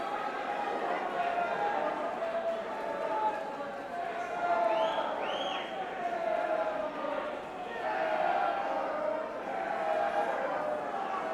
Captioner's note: crowd chatter